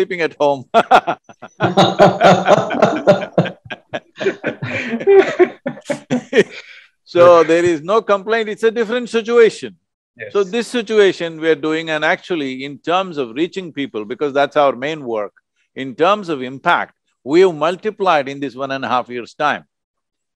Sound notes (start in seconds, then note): 0.7 laughter